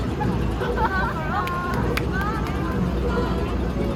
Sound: applause

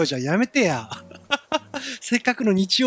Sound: giggle

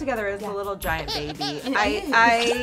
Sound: baby cries

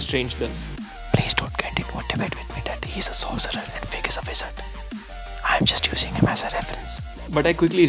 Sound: whisper

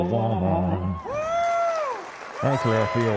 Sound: cheering

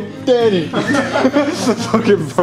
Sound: laughing

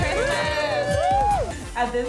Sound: all cheering

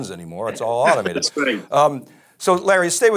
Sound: chuckling

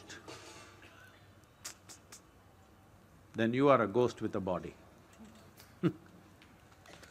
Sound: applause; laughs

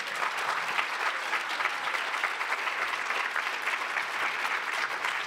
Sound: applause

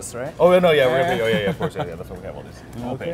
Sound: laughs

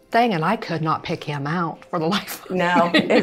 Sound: laughs

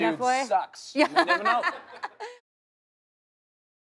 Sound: laughter

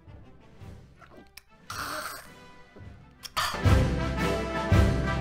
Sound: gagging sound

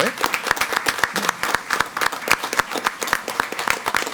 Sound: all applaud

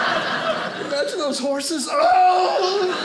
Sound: screams; audience laughing

